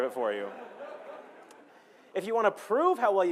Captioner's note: laughing